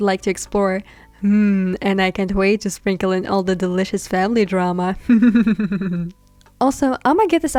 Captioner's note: evil cackling